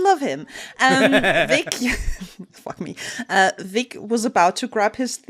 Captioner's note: laughter